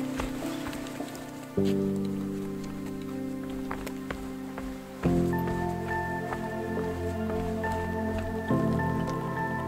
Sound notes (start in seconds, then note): 4.4 footsteps descending